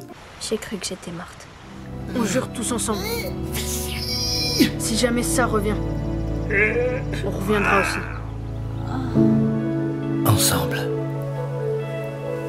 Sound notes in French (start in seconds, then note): 4.0 cris de douleurs; 6.4 bruits de douleurs